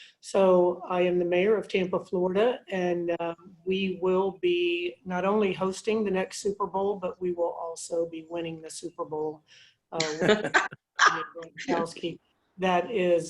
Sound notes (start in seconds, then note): 10.0 laughter drowns out speaker; 10.1 laughter